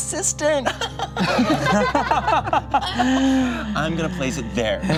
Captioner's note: group laughs